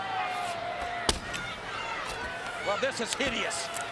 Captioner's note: ax thuds